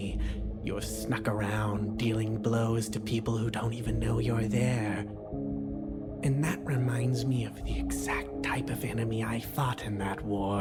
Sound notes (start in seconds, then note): none